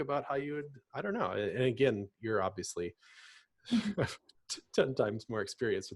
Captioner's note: laughs